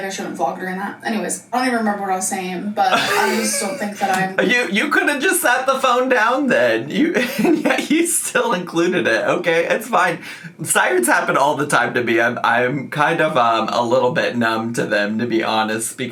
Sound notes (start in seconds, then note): 2.9 laughing; 7.0 laughing